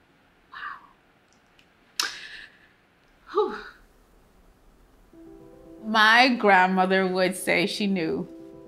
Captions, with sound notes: Wow. (softly exhales) My grandmother would say she knew.